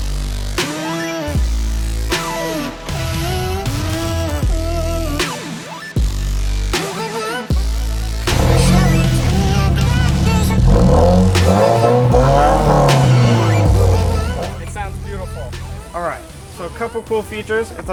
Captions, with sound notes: (engine roaring) It sounds beautiful. All right, so a couple cool features.